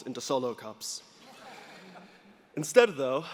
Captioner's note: audience laughing